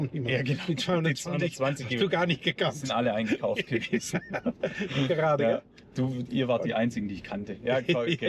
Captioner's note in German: gelächter